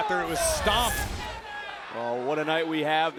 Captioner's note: graphics whooshing